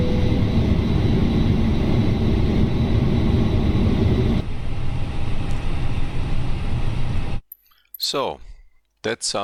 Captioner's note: aircraft powering up